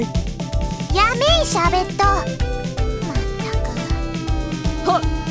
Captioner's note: sigh